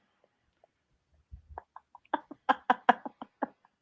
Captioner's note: laughter